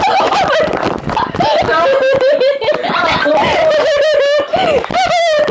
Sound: laughs; laughs out really hard

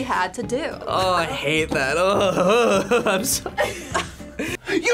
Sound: laughs

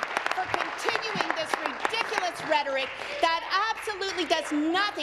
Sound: applause

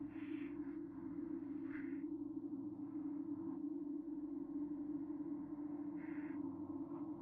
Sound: muffled rumbling, breathing

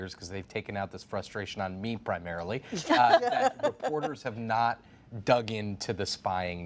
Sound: laughter

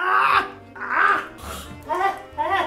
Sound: spits out watermelon

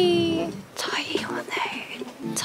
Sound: whisper

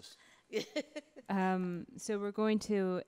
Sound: laughing

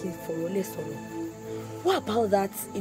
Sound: speaking foreign language

